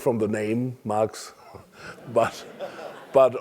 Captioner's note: laugh